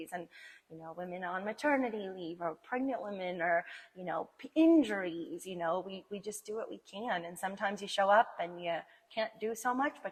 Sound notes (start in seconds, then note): none